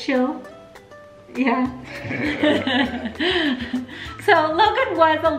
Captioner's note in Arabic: الكل يضحك